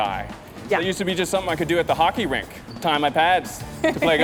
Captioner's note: laughing